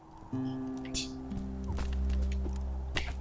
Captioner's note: laughs softly